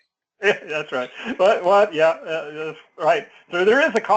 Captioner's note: laugh